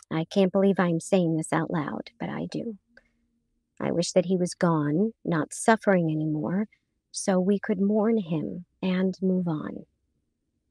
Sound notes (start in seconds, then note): none